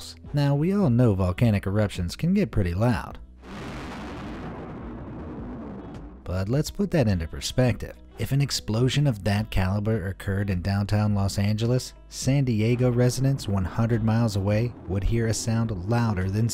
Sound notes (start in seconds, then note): 3.4 eruption booms